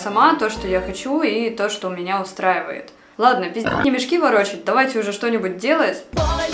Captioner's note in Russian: хрю